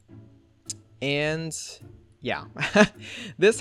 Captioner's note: laughs